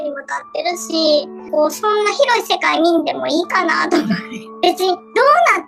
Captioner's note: laughs